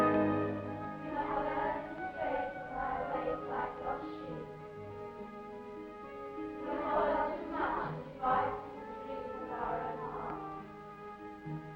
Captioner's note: bell tolls; dramatic ominous music; children reciting prayers